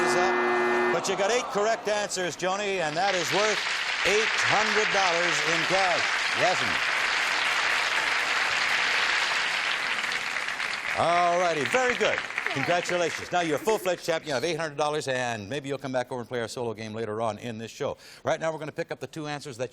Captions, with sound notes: OK, time is up, but you got eight correct answers, Joanie. And that is worth $800 in cash. [applause] All righty. Very good. Congratulations. Now you're a full-fledged champion. You have $800, and maybe you'll come back over and play our solo game later on in this show. Right now, we're going to pick up the two